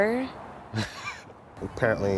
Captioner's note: laughs